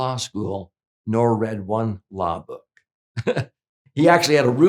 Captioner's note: chuckles